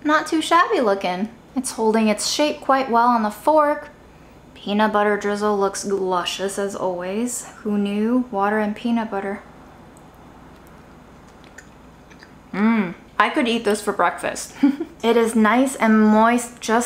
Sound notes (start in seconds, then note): 14.5 chuckles